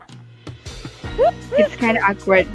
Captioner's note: giggles